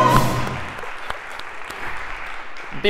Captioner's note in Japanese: 拍手